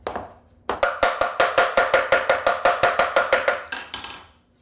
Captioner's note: hammer pounding